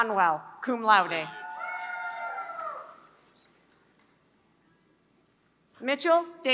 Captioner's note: applause